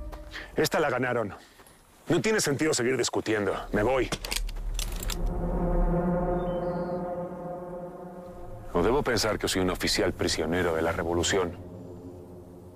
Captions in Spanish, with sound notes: - Esta la ganaron, no tiene sentido seguir discutiendo, me voy. [Sonido de los revólveres] ¿O debo pensar que soy un oficial prisionero de la revolución?